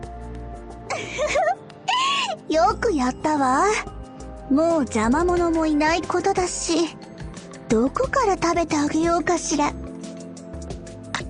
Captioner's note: giggle giggle